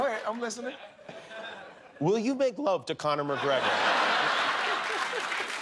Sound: laughter

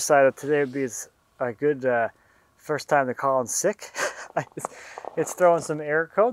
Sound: laughs

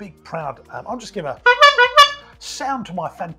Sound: honking

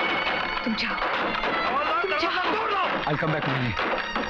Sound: door knocks

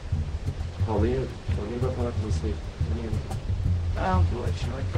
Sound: speaking foreign language

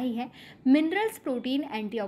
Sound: hindi

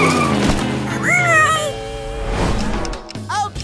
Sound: squeaking

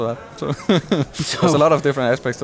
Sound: laughs

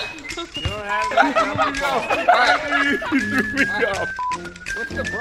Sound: players laughing

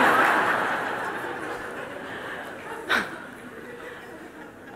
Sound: smijeh

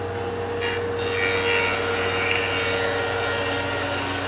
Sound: machine buzzing

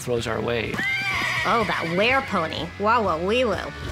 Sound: whinnies

